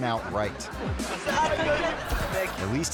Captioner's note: people laughing